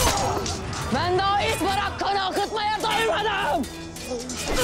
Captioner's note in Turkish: Çarpışma sesleri; Çarpışma sesleri